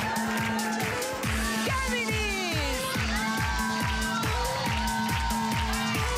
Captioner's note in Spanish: Gritos y exclamaciones